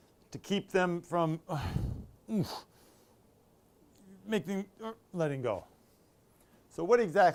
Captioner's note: grunts